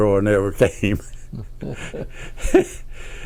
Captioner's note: laughs